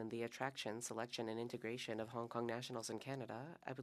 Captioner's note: speaking French